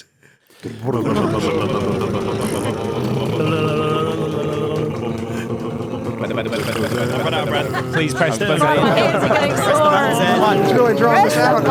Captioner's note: verbal group drum roll